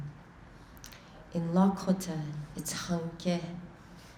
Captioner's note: speaking in foreign language